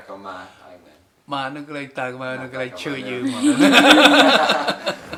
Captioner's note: laughs